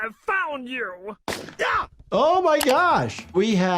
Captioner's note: rifle firing